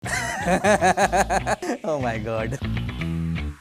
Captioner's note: laugh